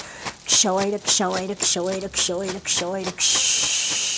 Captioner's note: chanting in Quechua